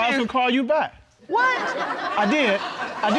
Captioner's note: audience laughs